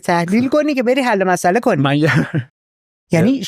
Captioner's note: laughs